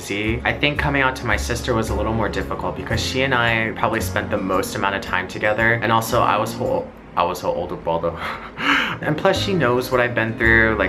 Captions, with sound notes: I think coming out to my sister was a little more difficult because she and I probably spent the most amount of time together, and also, I was her older brother. (laughs) And plus, she knows what I've been through,